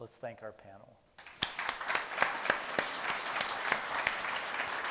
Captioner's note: people applauding